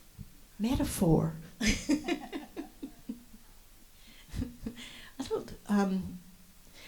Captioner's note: laughs